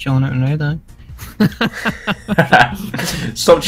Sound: laughter

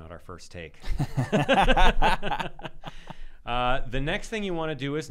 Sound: laughing

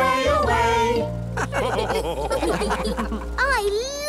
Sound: all laugh

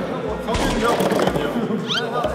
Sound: crumbling

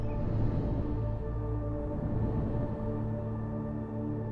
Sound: windmill whooshing

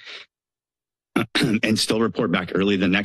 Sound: clears throat

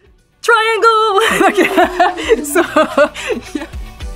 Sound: laugh

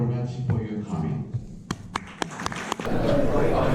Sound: clap

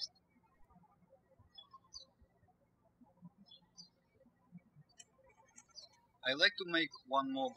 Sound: birds chirping

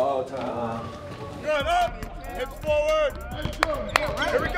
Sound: whistle blows; hands clapping

